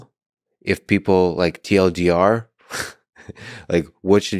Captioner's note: chuckles